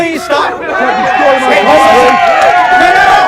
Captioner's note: crowd Shouts